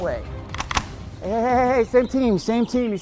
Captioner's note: gun clacking